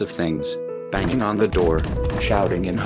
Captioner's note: banging on the door